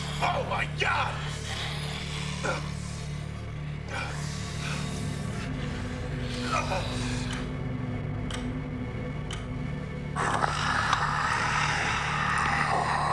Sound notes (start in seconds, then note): 1.3 gasping; 7.3 clock ticking; 10.1 mummy snarling